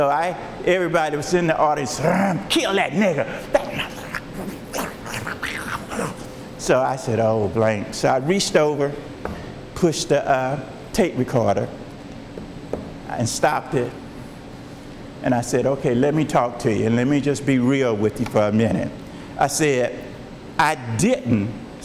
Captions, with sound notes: So everybody was in the audience, kill that nigga! (snarling) So I said, oh, blank. So I reached over, pushed the tape recorder. And stopped it, and I said, okay, let me talk to you. Let me just be real with you for a minute. I said, I didn't say that